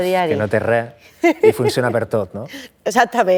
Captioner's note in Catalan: ríe